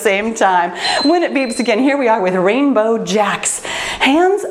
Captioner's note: timer beeps